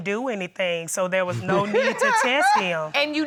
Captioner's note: laughs